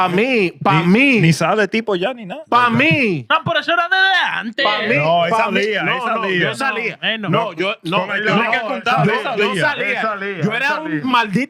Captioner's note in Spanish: Hablando en idioma extranjero